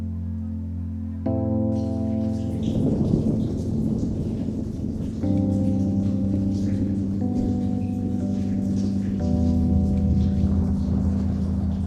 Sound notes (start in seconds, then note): 2.6 thunder booming; 2.8 rain trickling; 9.2 soft music